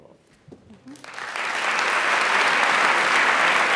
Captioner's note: applause